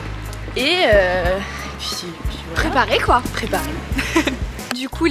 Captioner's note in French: rire